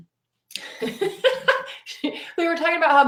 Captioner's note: laughing